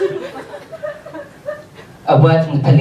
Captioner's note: audience laughs